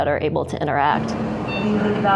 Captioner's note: machines beeping